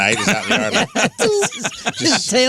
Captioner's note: laughing